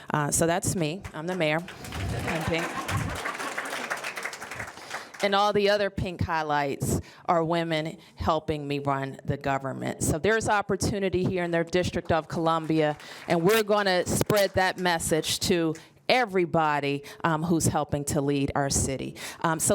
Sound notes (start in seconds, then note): 3.3 applause